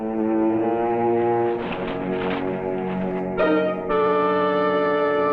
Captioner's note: suspenseful orchestral music; bushes rustling